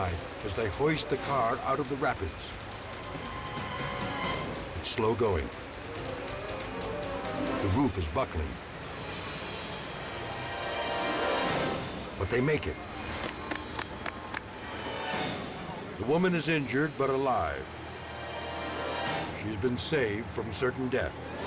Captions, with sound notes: as they hoist the car out of the rapids. It's slow going. The roof is bucking. (tense suspenseful music) But they make it. (people applauding) The woman is injured but alive. She's been saved from certain death,